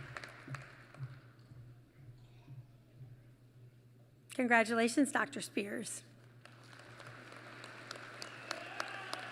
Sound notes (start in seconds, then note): 6.3 applause